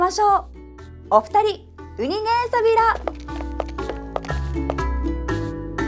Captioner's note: in Okinawan